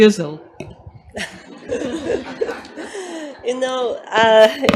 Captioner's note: doctors, professors laugh